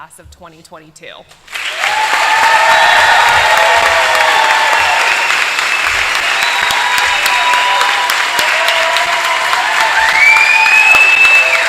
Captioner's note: applause